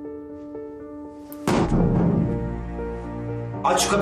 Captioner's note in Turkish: kapi yumruklama sesi̇